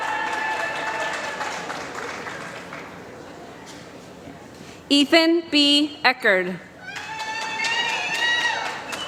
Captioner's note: applause